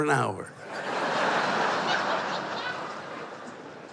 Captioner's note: laughter